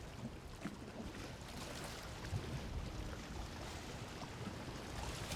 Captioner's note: water lapping